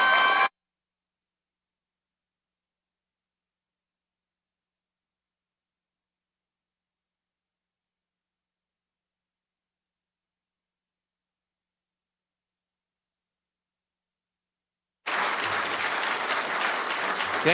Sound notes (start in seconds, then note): 0.0 applauding; 11.3 applauding